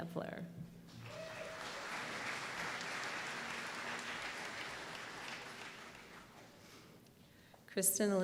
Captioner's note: applause